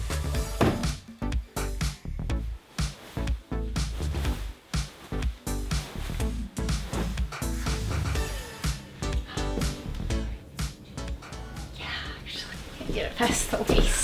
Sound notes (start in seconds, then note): 0.1 unboxing sounds; 2.6 fabric shaking & fluffing